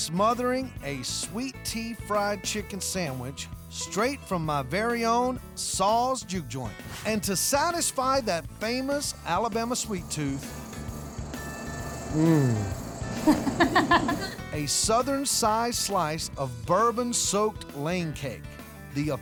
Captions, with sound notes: SMOTHERING A SWEET TEA FRIED CHICKEN SANDWICH STRAIGHT FROM MY VERY OWN SAW'S JUKE JOINT. AND TO SATISFY THAT FAMOUS ALABAMA SWEET TOOTH... MMM! [LAUGHS] A SOUTHERN-SIZED SLICE OF BOURBON-SOAKED LANE CAKE...